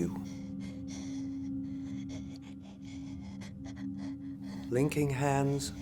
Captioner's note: labored breathing